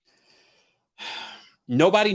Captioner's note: sighs